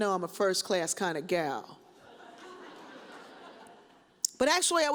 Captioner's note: audience chuckles